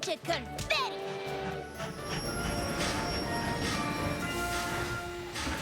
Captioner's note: train whistle blows; chugging, brakes squeal